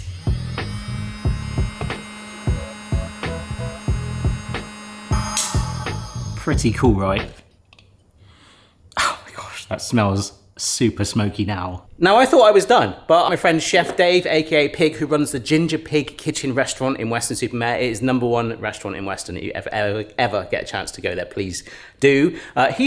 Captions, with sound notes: (machine whirring) Pretty cool, right? (sniffs) Oh, my gosh. That smells super smoky now. Now I thought I was done, but my friend Chef Dave, AKA Pig, who runs the Ginger Pig Kitchen Restaurant in Weston-super-Mare. It is number one restaurant in Weston. If you ever get a chance to go there, please do.